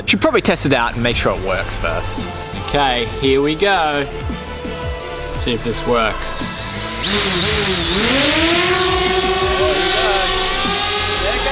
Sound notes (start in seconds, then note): 7.2 drone buzzing